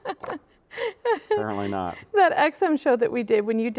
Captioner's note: laughing